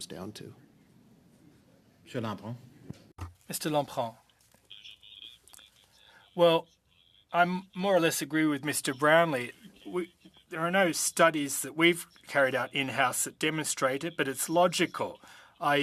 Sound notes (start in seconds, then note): 7.5 speaking French